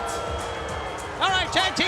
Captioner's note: crowd cheering